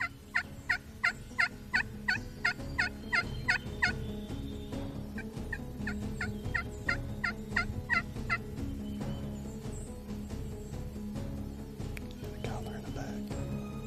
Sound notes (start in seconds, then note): 0.6 turkey call yelps; 6.0 turkey call yelps